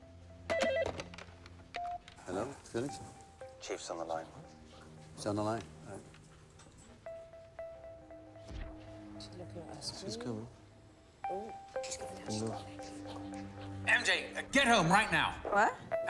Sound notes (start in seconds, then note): 0.4 phone ringing; 3.4 Felix On Phone